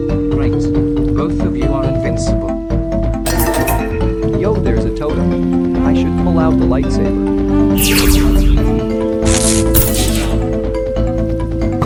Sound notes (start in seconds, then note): 7.8 zaps totem